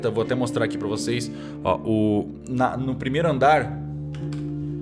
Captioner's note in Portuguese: none